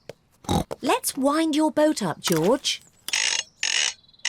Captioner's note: ducks quack; snorts